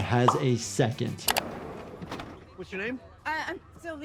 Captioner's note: door slides open